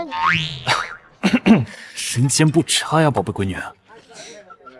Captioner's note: cough cough